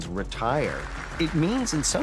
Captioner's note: applause